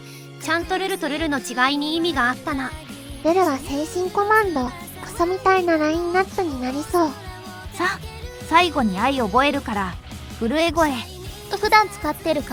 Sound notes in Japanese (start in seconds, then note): 10.4 震え声